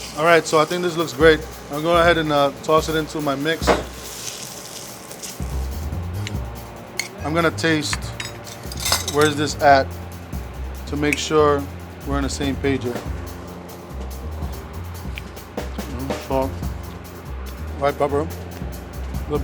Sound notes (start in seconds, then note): 3.2 pan sizzling; 14.1 jazzy music